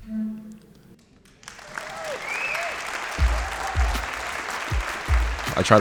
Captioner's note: applause